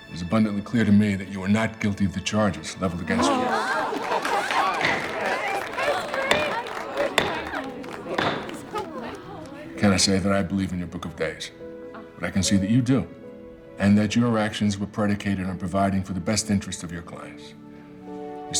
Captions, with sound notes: It was abundantly clear to me that you are not guilty of the charges leveled against you. (crowd cheering) I cannot say that I believe in your Book of Days, but I can see that you do and that your actions were predicated on providing for the best interest of your clients.